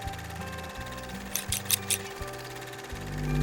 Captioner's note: camera reel flutters; scissor clip; gentle music